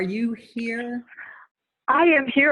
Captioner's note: laughing